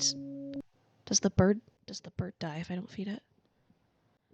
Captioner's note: quietly